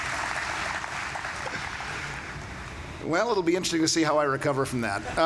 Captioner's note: applause